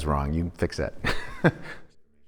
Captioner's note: laughs